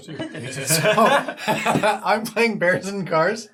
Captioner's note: all laugh